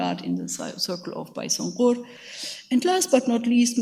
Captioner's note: speaks in a foreign language